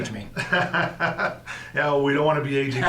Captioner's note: laughs